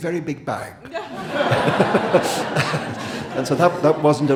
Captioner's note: audience and Salman laughing